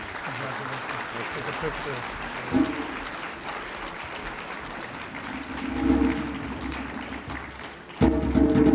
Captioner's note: applause